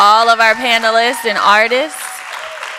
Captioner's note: audience applause